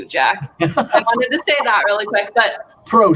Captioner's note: laughter